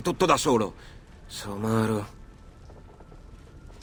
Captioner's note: murmurs